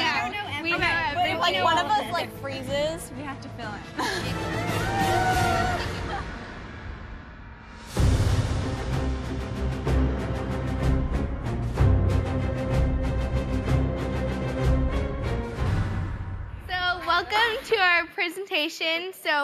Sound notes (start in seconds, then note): 6.0 all cheer